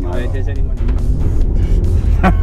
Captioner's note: aggressive revving; laughing